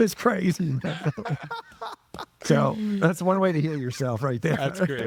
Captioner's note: laughing